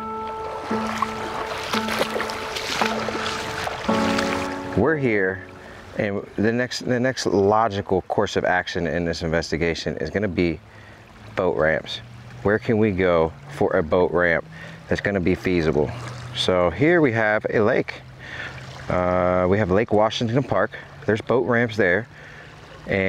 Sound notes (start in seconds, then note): 0.1 splashing in the water